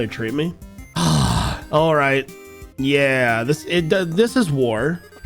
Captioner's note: dramatic sigh